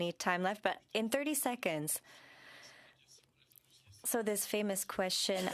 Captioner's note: speaking French